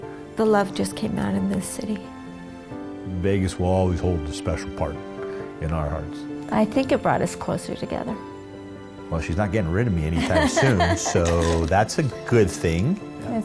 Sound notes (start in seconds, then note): 10.1 laughs